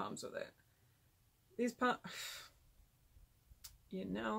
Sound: sigh

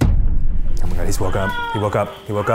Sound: cries on monitor

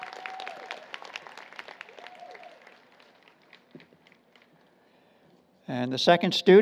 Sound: applause, Cheering

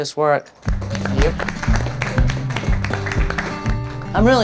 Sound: applause

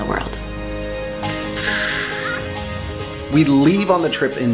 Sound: upbeat music; woman emotes

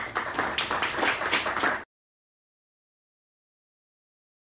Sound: audience applauding

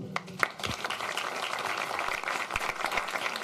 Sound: applause

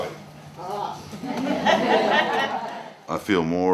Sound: classroom laughing

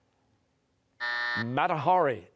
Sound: buzzer

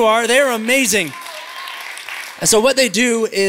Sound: applause

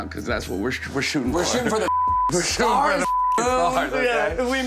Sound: beep

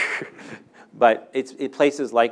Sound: laughing

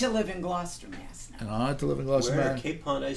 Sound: voiceover

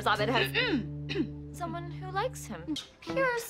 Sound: SHIRLEY coughs

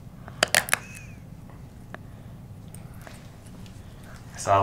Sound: loud crackling

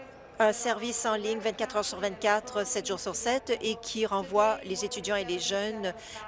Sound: speaking in French

